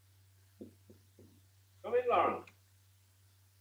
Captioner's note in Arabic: نقرات على المفاصل